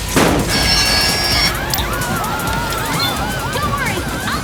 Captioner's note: screaming